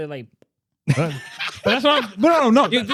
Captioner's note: all Laughing